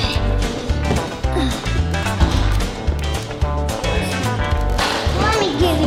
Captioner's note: grunt; lots of grunting